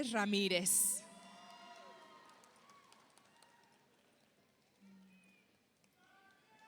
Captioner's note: audience applauds; audience cheers